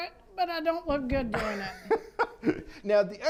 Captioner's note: laughs